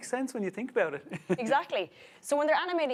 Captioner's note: laughs